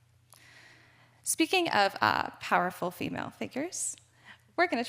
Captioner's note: none